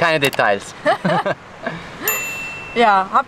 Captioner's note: laughter